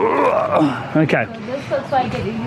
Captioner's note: grunts